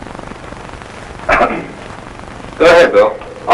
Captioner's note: cough from offscreen